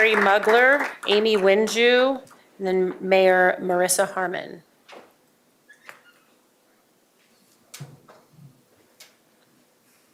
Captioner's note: applause